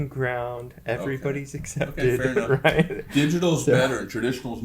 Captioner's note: laughs